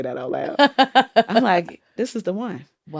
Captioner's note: laughter